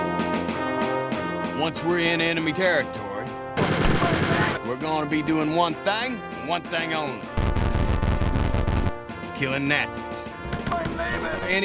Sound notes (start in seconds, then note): 3.6 blasting; 7.3 failed wall interaction sound; 10.5 blasting